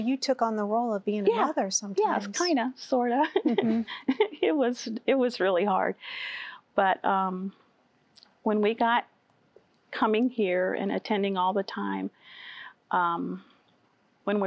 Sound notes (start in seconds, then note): 3.3 giggling